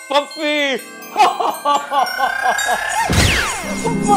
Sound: Santa laughing

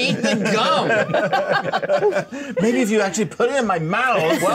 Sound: co-hosts laughing

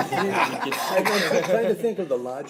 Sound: laugh

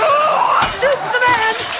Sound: Jetta growling; fence clanging

